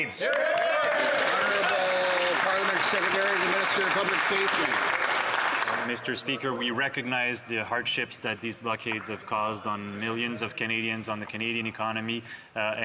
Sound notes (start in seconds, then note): 4.1 applause